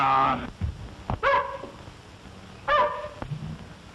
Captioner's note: dog barks